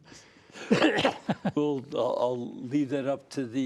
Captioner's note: laughter